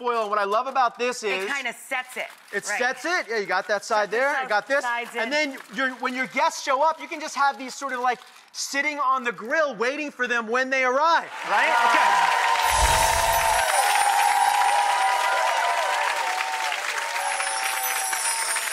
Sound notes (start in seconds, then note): 11.3 audience applause